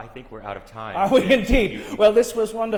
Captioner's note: laughs